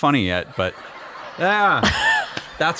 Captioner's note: laughter